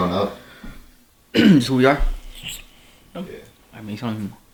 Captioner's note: coughs